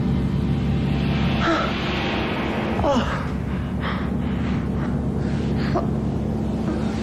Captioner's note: moaning